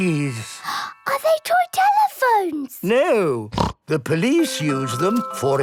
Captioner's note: snorting